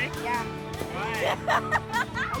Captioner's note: laughter